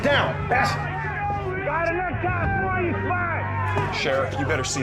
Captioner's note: voices clamoring